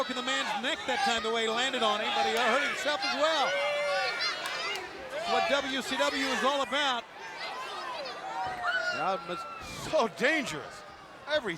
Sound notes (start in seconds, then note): 7.4 crowd chattering